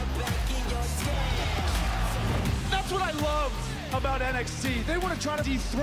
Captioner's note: bell ringing